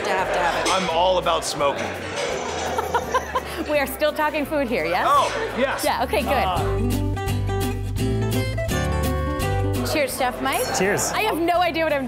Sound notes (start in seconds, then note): 2.6 laughs; 6.6 soft music